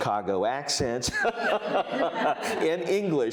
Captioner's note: all laughing